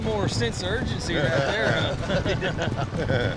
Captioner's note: chuckling